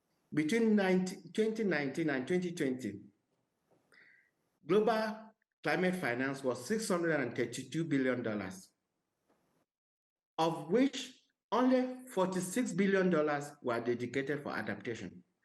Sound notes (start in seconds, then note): none